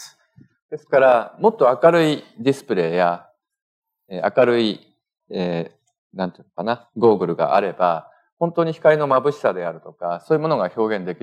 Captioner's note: speaking japanese